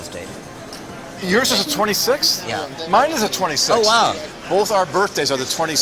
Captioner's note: laughs